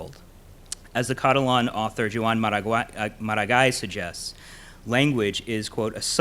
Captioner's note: in foreign language